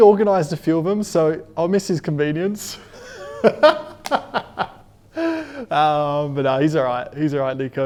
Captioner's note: laughs